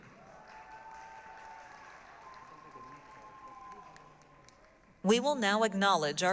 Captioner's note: applause, cheering